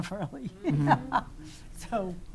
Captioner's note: laughing